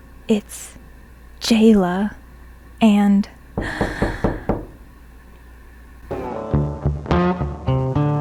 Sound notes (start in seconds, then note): 3.5 knocking